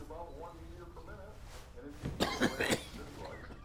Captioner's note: walter coughing